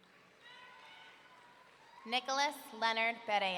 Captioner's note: audience cheering